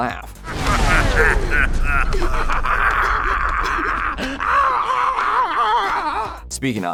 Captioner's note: laughing